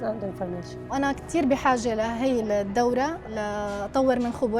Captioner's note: speaking arabic